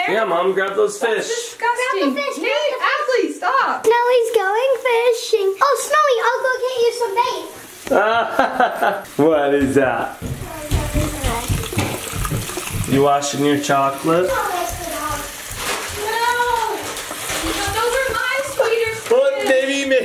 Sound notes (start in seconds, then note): 7.6 water running; 7.8 person laughing; 14.5 water running